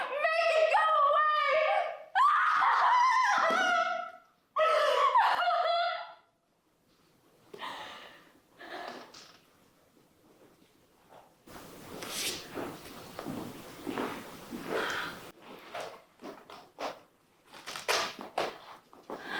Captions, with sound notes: Make it go away! (Elaine screams). (Sobbing).